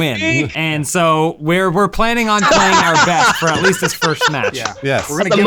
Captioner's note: laughing